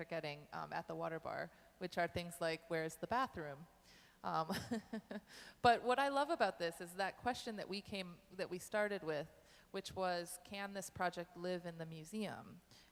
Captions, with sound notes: are getting at the Water Bar, which are things like, where's the bathroom? (chuckles) But what I love about this is that question that we started with, which was, can this project live in the museum,